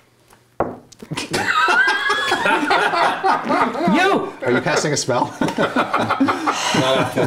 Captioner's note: laughter